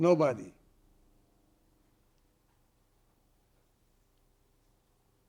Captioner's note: pauses 29 seconds